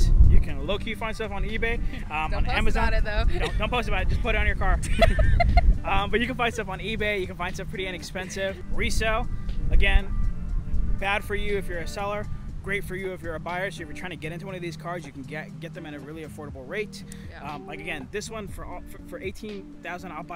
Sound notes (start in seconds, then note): 4.6 both laughing